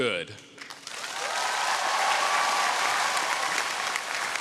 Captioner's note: audience cheering